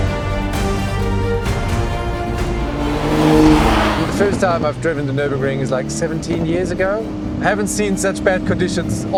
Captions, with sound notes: (engine revs) - The first time I've driven the Nürburgring is like 17 years ago. I haven't seen such bad conditions